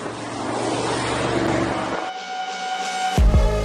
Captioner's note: car whirring; upbeat music